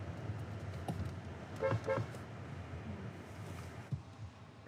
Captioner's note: honking